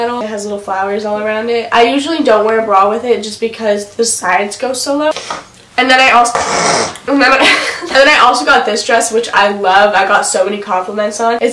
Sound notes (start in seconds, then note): 6.3 sniffs